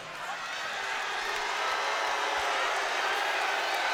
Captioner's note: crowd boos